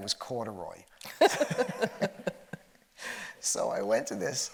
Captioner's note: both laughing